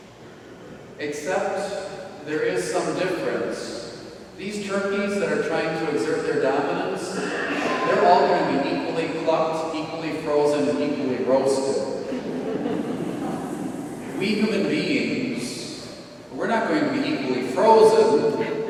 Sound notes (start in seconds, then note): 12.0 audience laughing